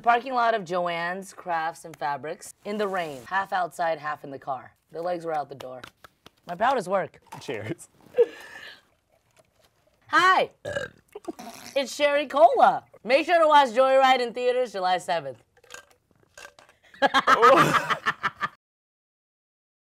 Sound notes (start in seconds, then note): 10.6 burps; 17.0 Sherry laughing